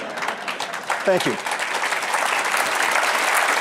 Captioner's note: applause